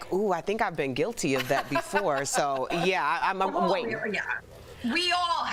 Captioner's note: laughter